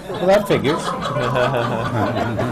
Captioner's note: laughter